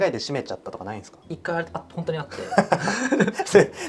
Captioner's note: laughs